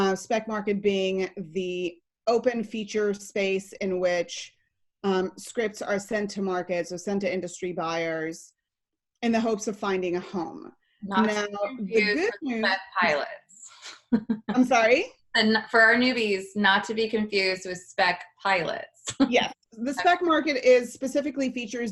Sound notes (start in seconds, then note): 14.0 laughs; 18.7 laughs